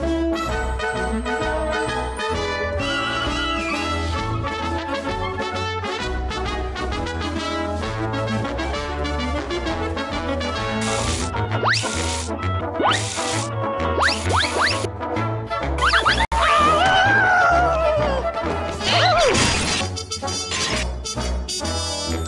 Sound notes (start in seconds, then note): 5.2 marching bands playing continues; 10.8 spray airing; 16.3 screaming; 18.8 gasps and glass shatters